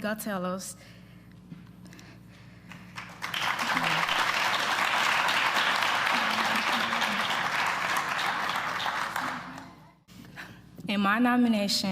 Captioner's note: applause